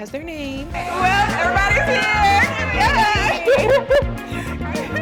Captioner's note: laughing